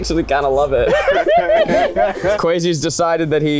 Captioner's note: everyone laughs